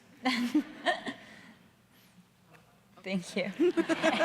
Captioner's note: audience laughing